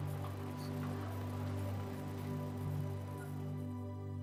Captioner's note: cars whirring